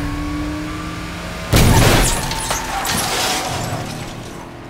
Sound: crashes

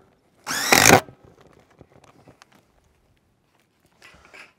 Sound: power tool whirring

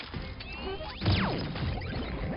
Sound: laser charging

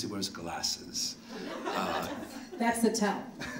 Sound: audience laughing

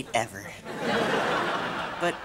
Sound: laughing

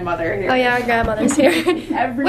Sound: laughs

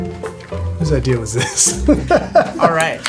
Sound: laughs

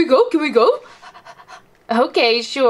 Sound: pants

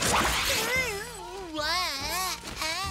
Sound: groaning

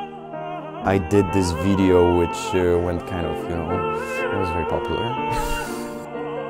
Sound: laughs

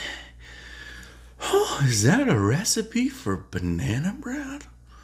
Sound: gasps

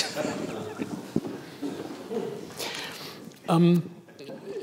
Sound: audience laughs

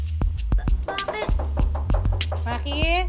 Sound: knocking on door

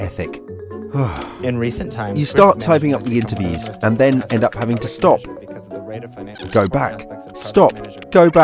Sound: sigh

